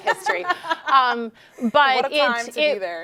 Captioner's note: laughing